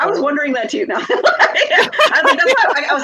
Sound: both laugh out loud

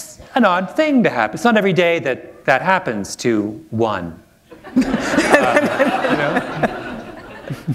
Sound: laughter

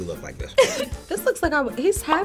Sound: laughing

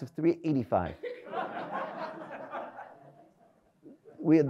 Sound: audience laughs

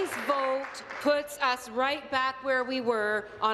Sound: applause

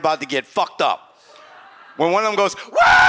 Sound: audience laughs

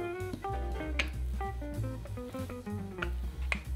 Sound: rolling pin rolling

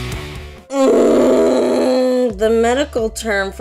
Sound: groaning

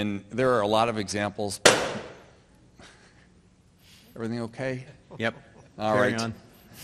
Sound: loud noise and lights dim

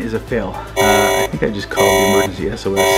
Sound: alarm rings

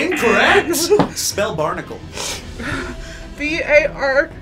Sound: buzzer blares; whimpers

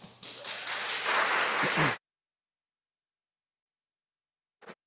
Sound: audience applauding

